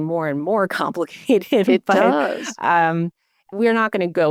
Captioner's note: laughter continues